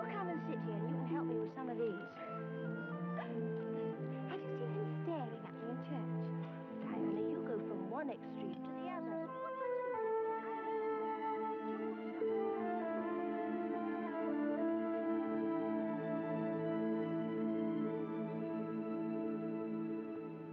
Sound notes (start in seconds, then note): 3.1 chattering